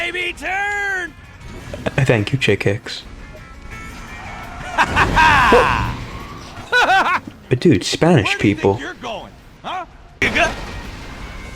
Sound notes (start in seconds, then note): 6.5 spanish From Above